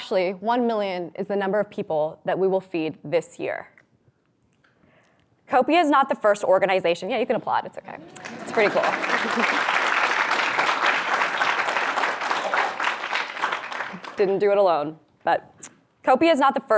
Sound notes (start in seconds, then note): 9.9 audience applauds